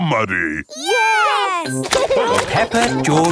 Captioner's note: laughing